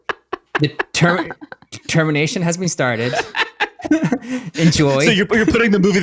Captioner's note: laugh; laughs